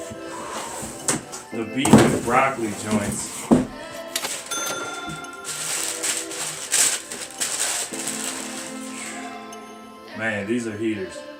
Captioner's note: sniffs Shoe